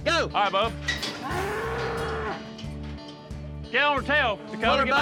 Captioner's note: mooing